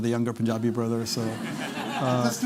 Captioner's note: laughter